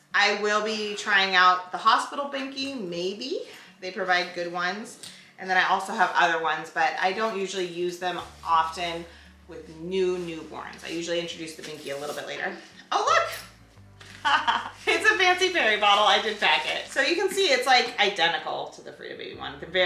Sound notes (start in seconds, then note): 14.1 laughs